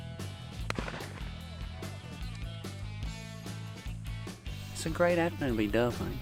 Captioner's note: loud gun shot